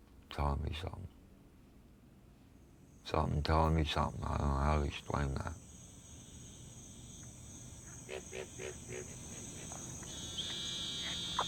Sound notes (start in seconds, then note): 5.7 crickets chirruping; 7.9 frogs croaking